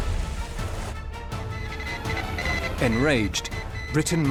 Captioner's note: morse code beeping